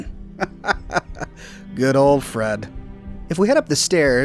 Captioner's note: laughing